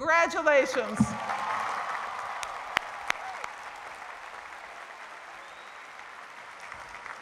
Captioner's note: cheering and applause